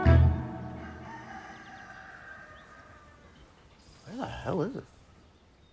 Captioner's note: rooster crowing; bird chirping